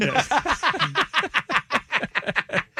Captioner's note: laughing